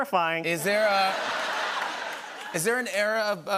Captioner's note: laughter